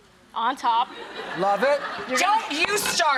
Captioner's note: laughing